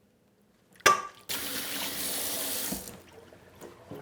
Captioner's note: water running